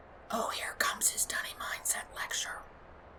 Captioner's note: Katja whispers